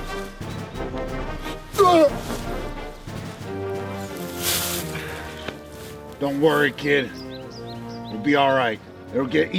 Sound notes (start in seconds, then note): 1.7 retches